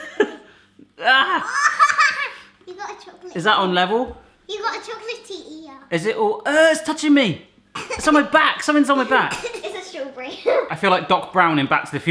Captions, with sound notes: Ah! (laughing) - You've got a chocolate-- - Is that on level? - You've got a chocolatey ear. - Is it, ooh, ugh, it's touching me, it's on my back, something's on my back. - Is this your brain? - I feel like Doc Brown in Back to the Future.